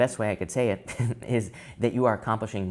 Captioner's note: tarot reader laughs